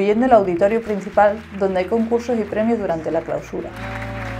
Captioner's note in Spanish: aplausos